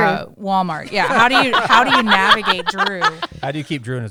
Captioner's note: laughter